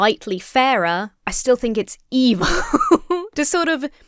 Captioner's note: laughs nervously